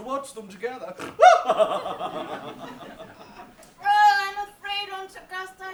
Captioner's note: Lady Bracknell snorts and laughs